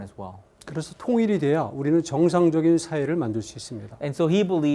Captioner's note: speaking in Korean